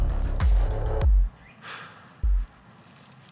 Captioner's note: labored sigh